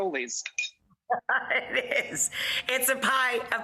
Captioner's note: laughing